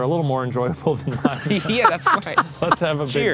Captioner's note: laughing